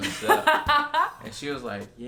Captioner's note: laughing